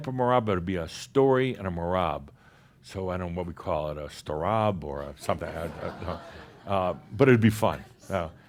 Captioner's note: some chuckles